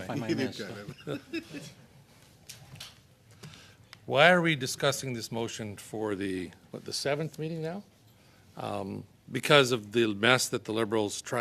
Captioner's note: laughter